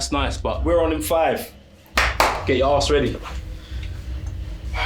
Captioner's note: claps twice